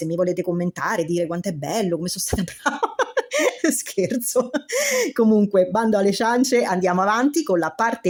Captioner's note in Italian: risate